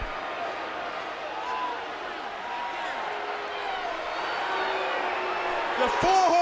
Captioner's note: crowd chatter